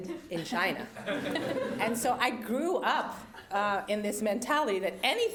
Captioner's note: laugh